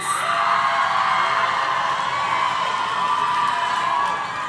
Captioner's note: audience cheering